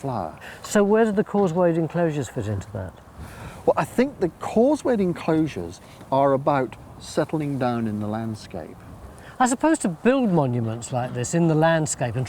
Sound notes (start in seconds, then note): none